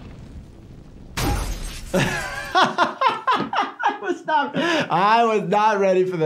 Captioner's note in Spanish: Caída de la máquina arcade; riendo